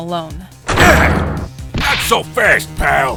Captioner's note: DOOR SLAMS OPEN, Gumshoe grunts!